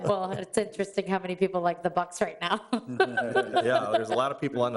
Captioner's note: laughs